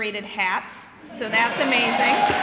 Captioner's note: cheering and clapping